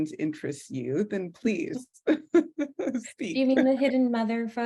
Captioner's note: laughs